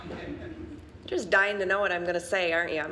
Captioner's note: audience chuckling